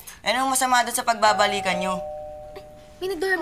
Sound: doorbell dinging

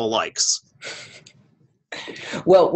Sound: chuckle

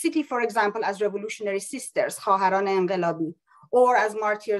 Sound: non english speech

